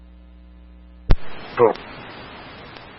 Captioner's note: radio traffic